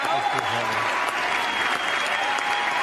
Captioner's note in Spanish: aplausos